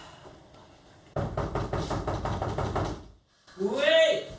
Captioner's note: knocks on the door